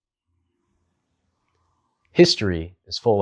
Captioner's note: beat